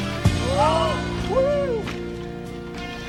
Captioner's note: crowd cheering